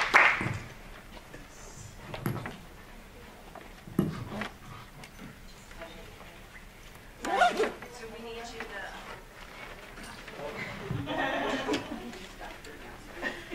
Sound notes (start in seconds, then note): 0.0 applause; 0.6 ambient preparation noises